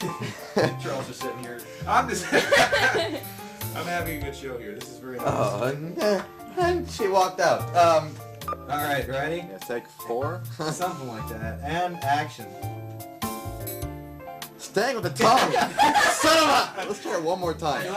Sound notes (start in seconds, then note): 2.2 laughing